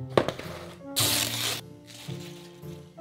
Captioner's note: plastic peeling